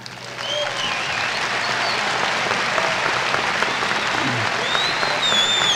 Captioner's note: applause and whistling